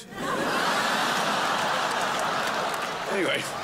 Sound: crowd laughs

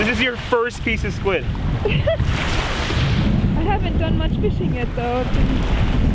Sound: laughing

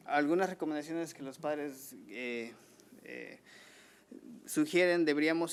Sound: man speaking foreign language

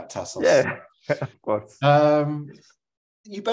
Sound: laughs

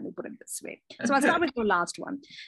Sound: laughs

